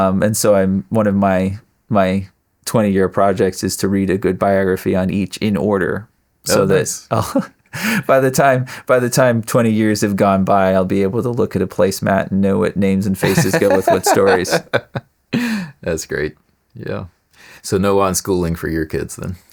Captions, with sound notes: And so, one of my 20-year projects is to read a good biography on each in order. Oh, nice. Oh. By the time 20 years have gone by, I'll be able to look at a placemat and know what names and family go with those stories. (Laughing) That's great, yeah. So, no on-schooling for your kids, then?